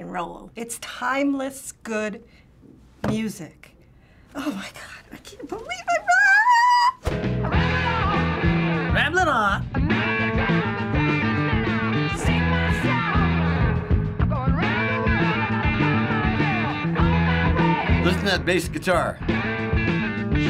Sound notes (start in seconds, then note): 6.4 squealing; 8.9 slurring